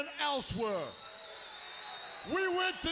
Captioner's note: attendee whistling